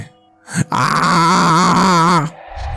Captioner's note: screams